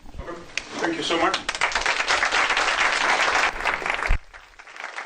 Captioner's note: applause